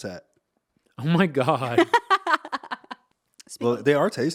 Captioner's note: laughing